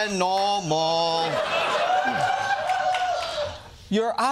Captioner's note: laughter